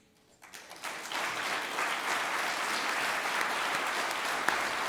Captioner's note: audience applauds